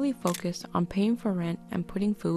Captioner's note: click!